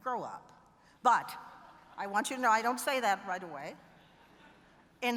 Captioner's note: laughter